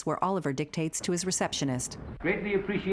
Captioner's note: doors sliding